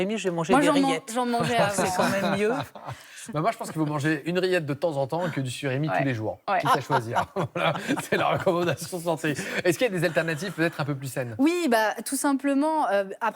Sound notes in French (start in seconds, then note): 6.6 rires